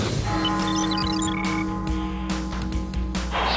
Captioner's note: tower bell ringing; music and cheering